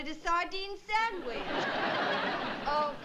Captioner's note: laughter